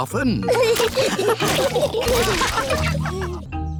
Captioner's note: all laughing